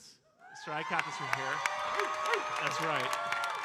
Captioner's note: audience cheering